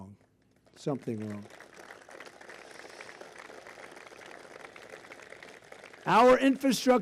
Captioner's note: applause